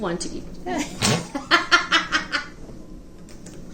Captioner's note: laughs